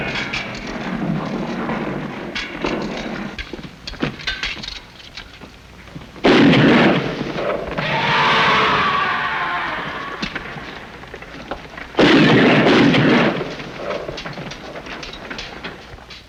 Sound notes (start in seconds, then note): 7.7 screaming; 11.9 gunshots